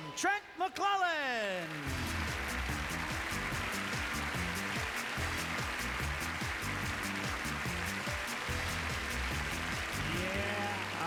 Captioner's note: applause